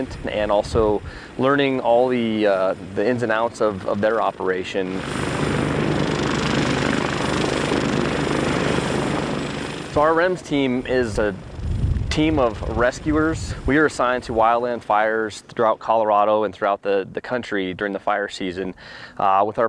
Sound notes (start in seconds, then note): 5.2 helicopter engine roaring